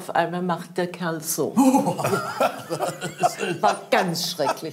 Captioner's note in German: Erschrockener Laut, lacht